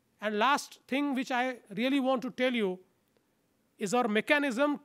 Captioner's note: none